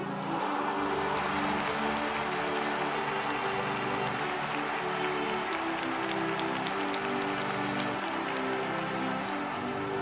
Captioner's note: everyone cheers